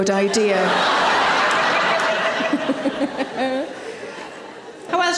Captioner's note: audience laughing; Sarah laughs